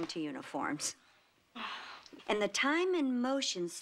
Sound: sighs

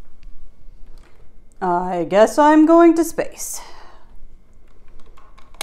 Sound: sighs

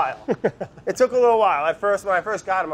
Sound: laughs

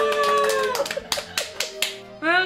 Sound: clapping

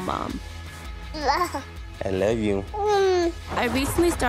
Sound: cooing

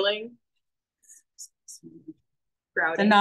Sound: speaks faintly

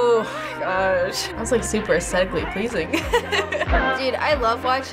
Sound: laughing

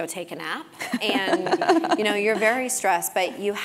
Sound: laugh

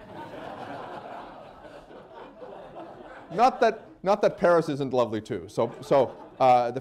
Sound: laughter

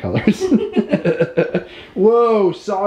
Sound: laughing

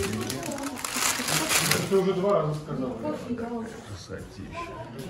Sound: voices of people

